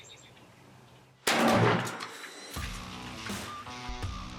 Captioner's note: gun shot; upbeat music